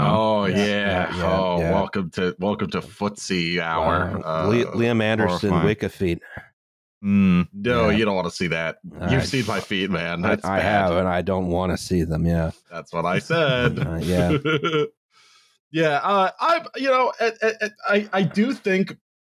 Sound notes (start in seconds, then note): 12.8 chuckles